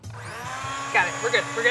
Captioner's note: mixer whirs